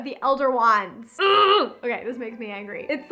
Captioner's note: groans